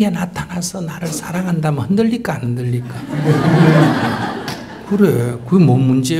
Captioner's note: audience Laughter